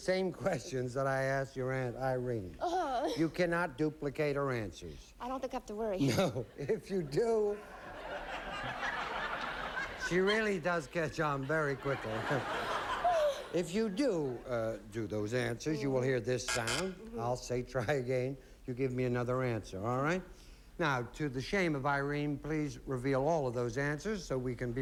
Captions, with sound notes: THAT I ASKED YOUR AUNT IRENE. YOU CANNOT DUPLICATE HER ANSWERS. I DON'T THINK I HAVE TO WORRY. NO. IF YOU DO-- SHE REALLY DOES CATCH ON VERY QUICKLY. IF YOU DO DO THOSE ANSWERS, YOU WILL HEAR THIS SOUND. [BUZZ BUZZ] I'LL SAY TRY AGAIN. YOU GIVE ME ANOTHER ANSWER. ALL RIGHT? NOW, TO THE SHAME OF IRENE, PLEASE REVEAL ALL OF THOSE ANSWERS